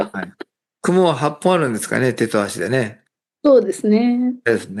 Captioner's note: laughs